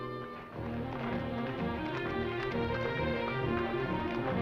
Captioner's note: horses clopping